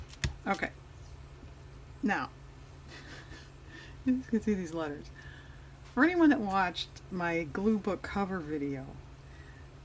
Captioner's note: laughs